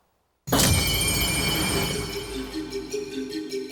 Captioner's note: explosion